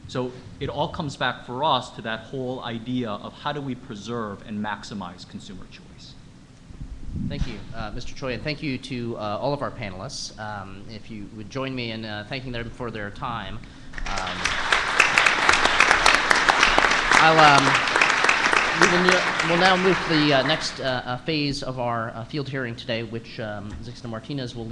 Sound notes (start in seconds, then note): 14.2 applause